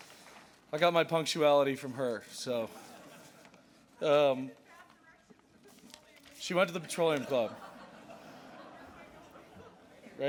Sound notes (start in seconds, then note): 2.7 laughter; 7.1 laughter